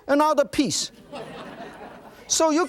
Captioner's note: audience laughing